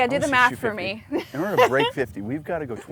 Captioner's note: laughs